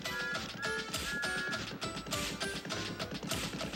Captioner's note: whistles